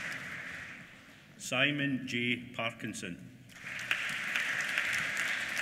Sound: applause

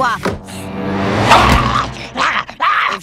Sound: growling

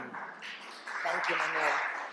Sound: applause

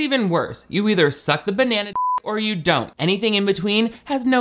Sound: beep

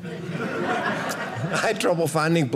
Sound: audience laughing

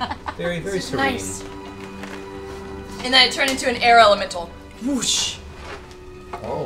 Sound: whoosh

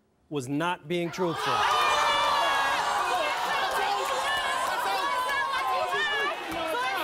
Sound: cheers

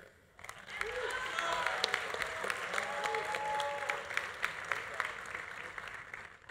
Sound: audience applauding; audience cheering

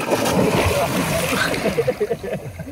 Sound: giggles

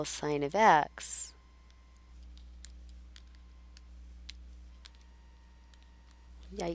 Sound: silence

